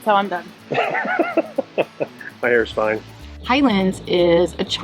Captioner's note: laughing